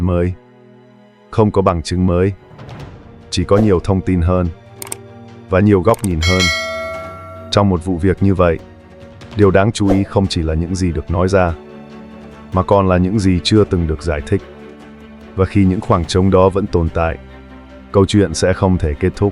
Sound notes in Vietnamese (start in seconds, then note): 6.0 chuông